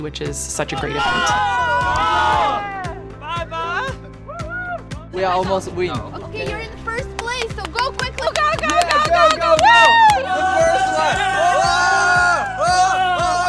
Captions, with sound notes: which is such a great event. (group cheering) - We are almost win. - Okay you're in first place so go quickly, (shouts) go go go go go, Whoo! (group cheering)